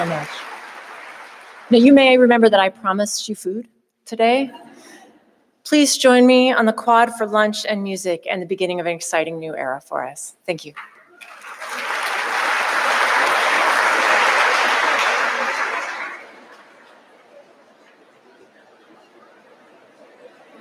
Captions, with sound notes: Thank you so much but you may remember that I promised you food today. Please join me on the quad for lunch and music and the beginning of an exciting new era for us. Thank you (audience applauding) (people murmuring)